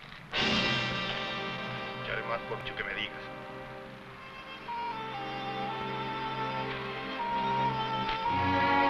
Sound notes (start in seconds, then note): 0.3 dramatic music; 2.1 people chattering; 4.1 somber music